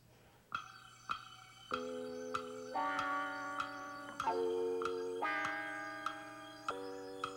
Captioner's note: clock ticking